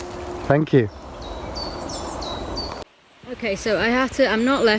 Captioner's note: birds chirping